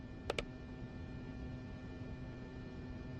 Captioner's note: mouse clicking